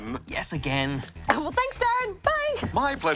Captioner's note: coughs